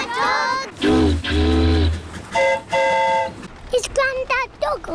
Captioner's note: boat horn honks; train horn toots